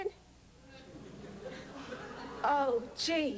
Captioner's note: laughter